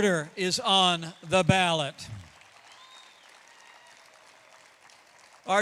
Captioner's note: applause